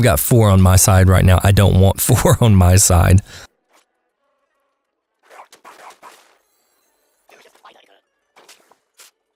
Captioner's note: haha